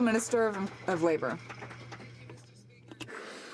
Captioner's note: some Applause